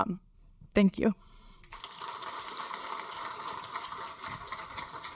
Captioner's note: audience applaud